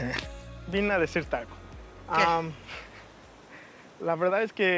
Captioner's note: speaking Spanish